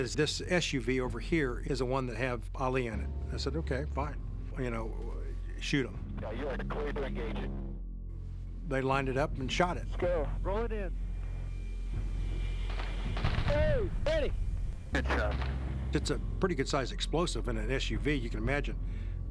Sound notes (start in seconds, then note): 12.6 gunfire